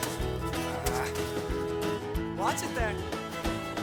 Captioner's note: Jack groans